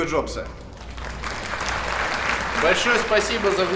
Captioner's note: applause